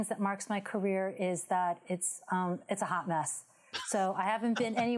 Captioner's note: laughs